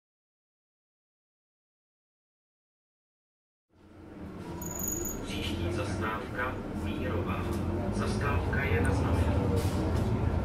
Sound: sound of shaky bus

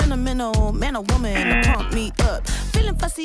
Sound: buzzer rings

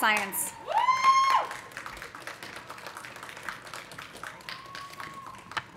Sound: audience cheering; audience applauding

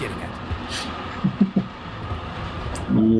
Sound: chuckles

